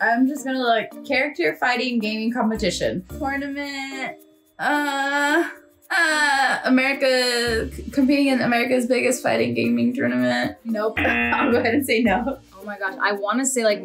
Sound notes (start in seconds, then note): 11.0 laughs; 11.0 buzzer rings